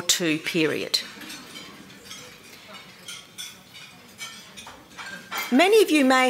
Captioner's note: dishes clanging